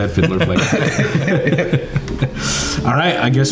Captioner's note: all laughing